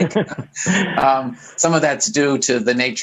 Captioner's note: laughs